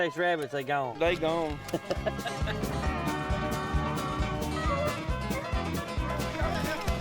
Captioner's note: laughs